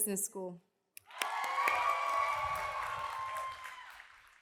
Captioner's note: cheers and applause